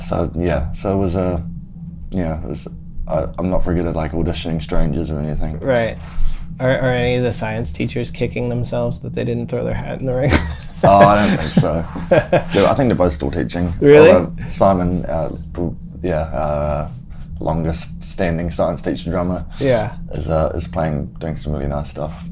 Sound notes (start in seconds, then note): 10.2 laughter